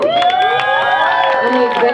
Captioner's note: crowd cheers